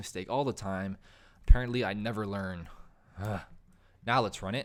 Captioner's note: grunts